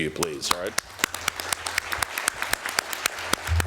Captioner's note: applause